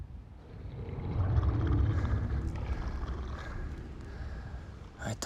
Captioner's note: alien roars